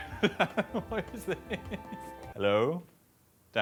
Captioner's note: laughing